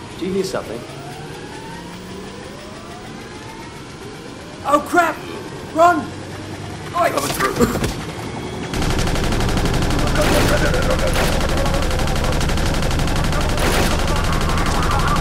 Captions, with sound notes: Do you hear something? (motor sound begins to whine) Oh crap.....RUN!!! Coming through!